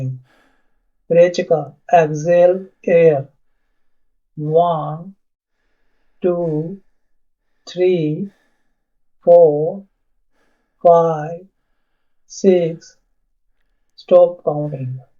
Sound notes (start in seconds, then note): 0.2 exhale air